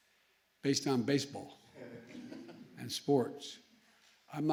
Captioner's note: laughter